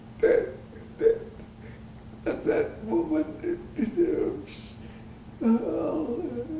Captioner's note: crying